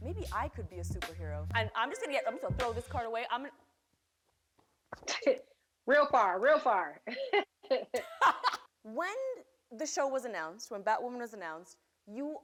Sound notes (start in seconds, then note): 5.2 laughs; 7.0 laughter